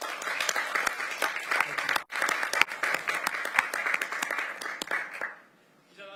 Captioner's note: applause